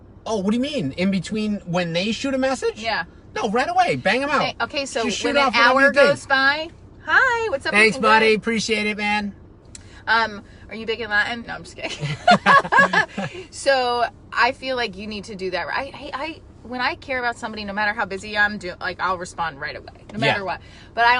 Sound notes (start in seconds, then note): 11.9 laughing